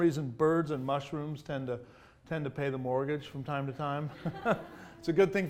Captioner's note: audience laughs; laughs